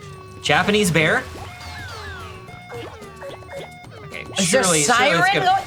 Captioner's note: siren whooping